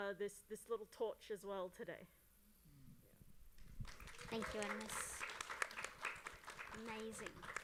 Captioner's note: applause